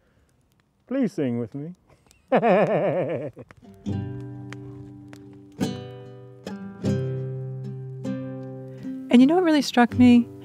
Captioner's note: laughs